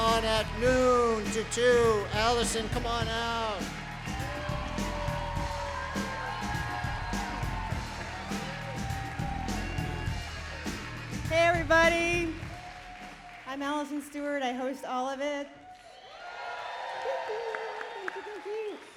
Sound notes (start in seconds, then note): 15.6 applause